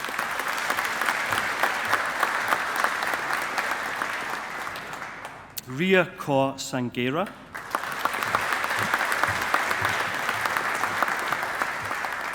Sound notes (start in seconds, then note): 0.0 audience applauding; 7.5 audience applauding